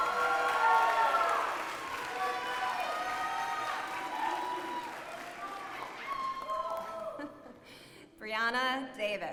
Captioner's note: applause